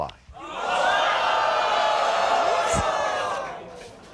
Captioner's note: audience oohs